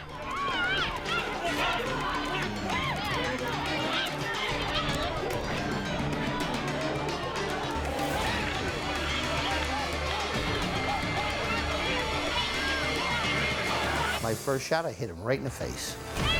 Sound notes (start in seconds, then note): 0.3 people shouting and fighting; 4.6 dramatic music; 7.8 people shouting and fighting